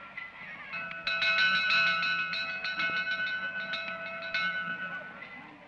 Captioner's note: bell ringing; crowd clamoring; bell rings louder